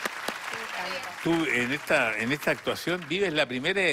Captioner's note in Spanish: Aplausos